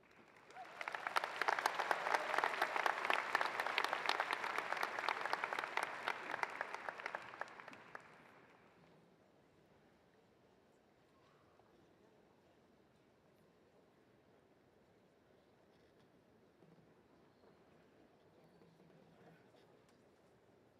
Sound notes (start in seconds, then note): 3.5 applause